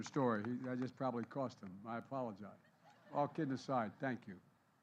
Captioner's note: applause